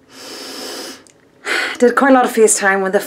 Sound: inhales deeply

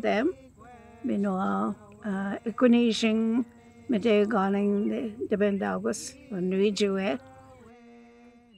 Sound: Speaking in Anishinaabemowin

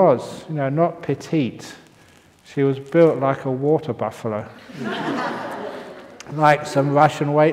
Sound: laughter

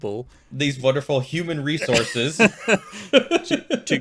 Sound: chuckling

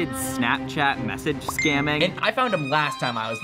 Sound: text pings

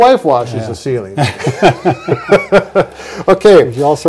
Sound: laughing

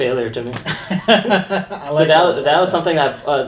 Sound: laughing

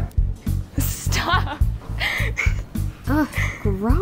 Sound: giggles

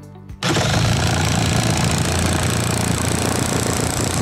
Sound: drilling

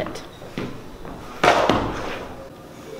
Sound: book falls

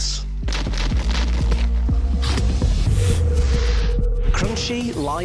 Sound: package rustling

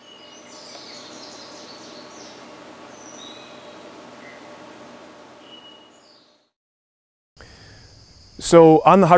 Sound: birds chirping

